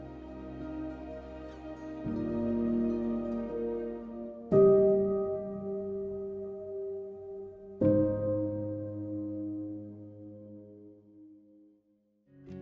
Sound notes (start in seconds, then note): 7.2 night sounds